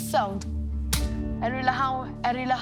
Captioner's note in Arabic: يصفق